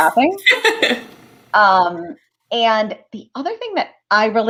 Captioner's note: laughter